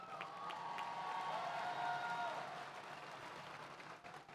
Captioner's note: audience cheers